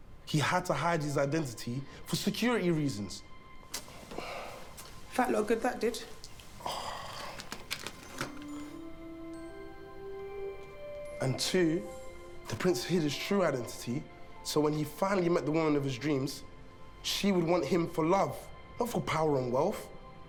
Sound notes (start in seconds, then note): 6.6 Tyler sighs; 7.7 cash rustling; 7.7 gentle music